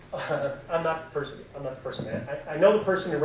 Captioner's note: laughs